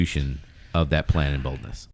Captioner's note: uh